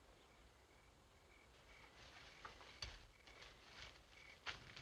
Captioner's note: rustling softly